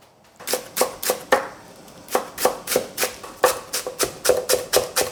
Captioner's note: knife chopping